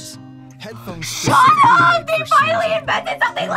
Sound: gasps

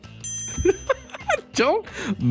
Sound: dinging; laughs

